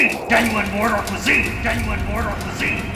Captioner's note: echoes